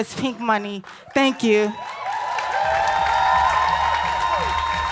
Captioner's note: applause